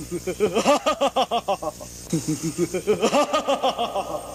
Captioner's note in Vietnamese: tiếng cười